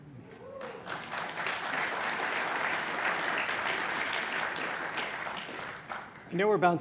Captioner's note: applause